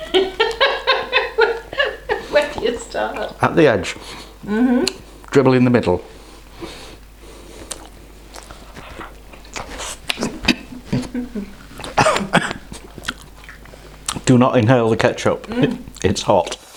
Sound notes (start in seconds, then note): 0.0 is it giggling or cackling?; 7.5 chomp; 9.9 choke; 11.9 splutter